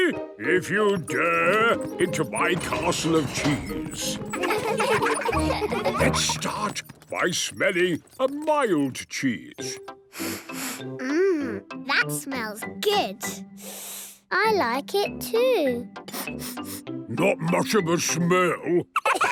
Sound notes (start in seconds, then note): 10.1 sniffs; 16.0 sniffing; 16.0 sniffs